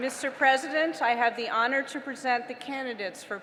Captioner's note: applause